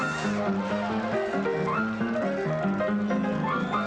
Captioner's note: audience applauding